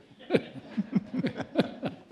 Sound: laughter

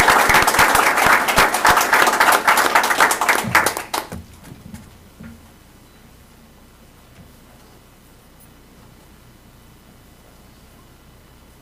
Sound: applause

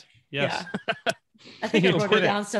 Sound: laughing

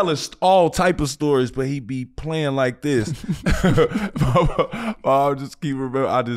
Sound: chuckling

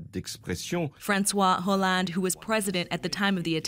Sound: speaking French

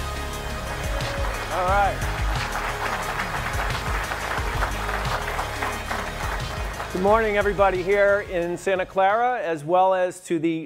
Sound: audience clapping; electronic music; audience clapping

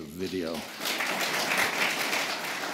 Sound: applause

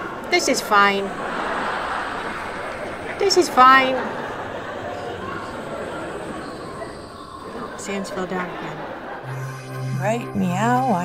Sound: crowd laughs

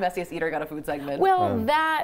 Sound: speaking italian

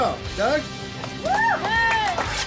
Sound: crowd cheering

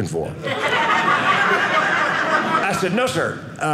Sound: audience laughing

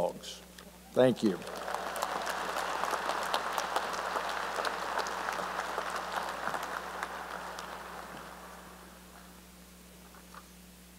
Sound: applause

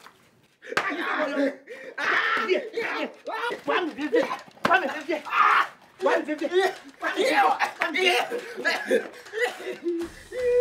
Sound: commotion

